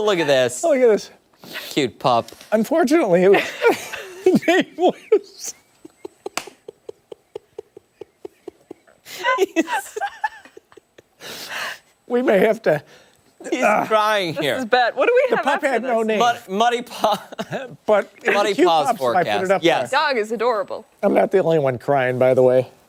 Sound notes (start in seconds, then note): 17.0 laughter